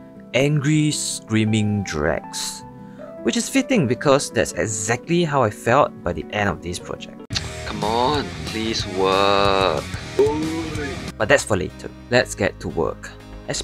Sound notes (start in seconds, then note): 7.3 tsk